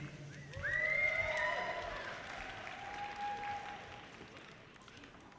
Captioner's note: audience cheers and applause